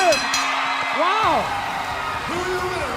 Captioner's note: bell ringing